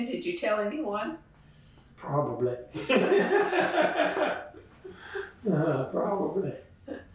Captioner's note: laughter